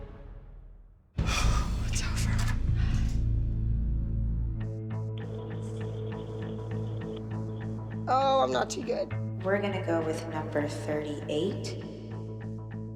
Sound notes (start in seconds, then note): 5.2 phone line ringing